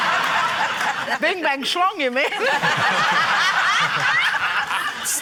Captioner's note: laughter